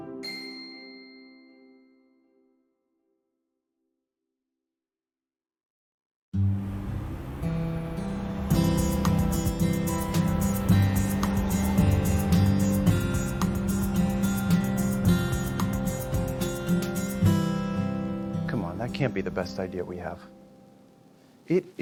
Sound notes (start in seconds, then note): 0.2 bell chimes; 6.3 gentle music; 6.3 traffic humming